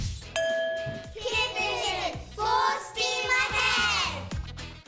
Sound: glass dings

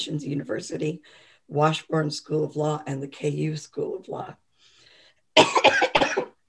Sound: coughs

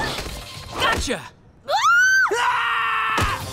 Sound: screaming

